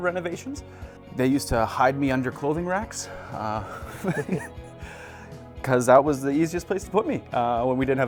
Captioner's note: laughs